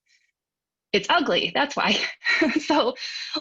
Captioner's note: chuckles